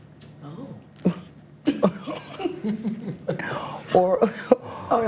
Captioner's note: all laughing